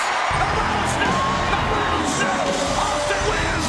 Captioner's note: announcer vocalizing